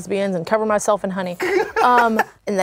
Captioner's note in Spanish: ríe